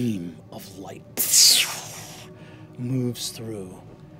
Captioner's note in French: bruissement lumineux